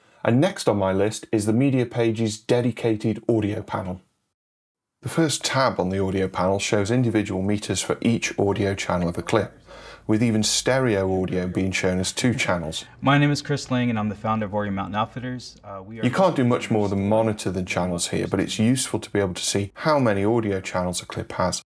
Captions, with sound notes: And next on my list is the Media Page's dedicated Audio panel. [INTERVIEW PLAYING] You can't do much more than monitor the channels here, but it's useful to be able to see how many audio channels a clip has,